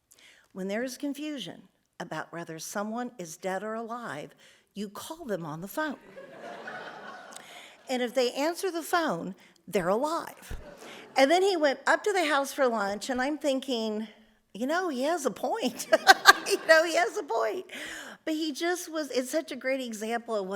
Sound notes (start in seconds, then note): 6.1 audience laughs; 10.6 audience laughs; 15.8 laughs; 15.8 audience laughs